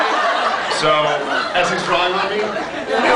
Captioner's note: laughs